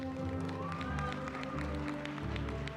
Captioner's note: cheering